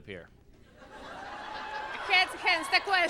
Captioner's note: laughs